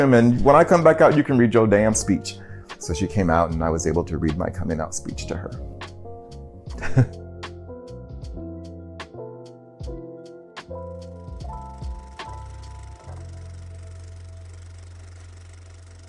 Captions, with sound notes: And when I come back out, you can read your damn speech. So she came out and I was able to read my coming out speech to her. [chuckles] [lo-fi hip hop music]